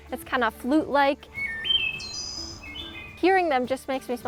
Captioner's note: wood thrush sings